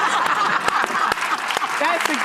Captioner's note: audience laughs